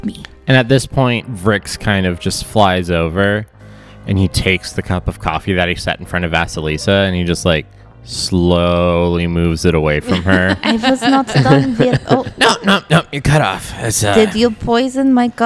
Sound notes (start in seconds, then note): 10.0 laughs